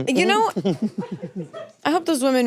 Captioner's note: laughing